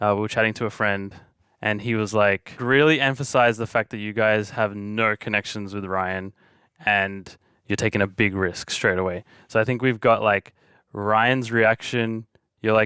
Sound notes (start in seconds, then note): none